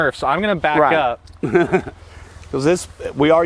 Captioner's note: chuckles